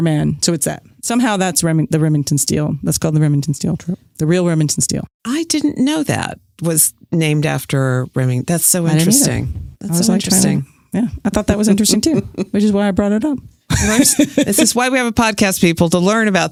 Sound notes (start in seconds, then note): 9.9 laughs; 12.0 laughs